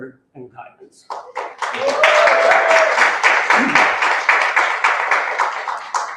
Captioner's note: applause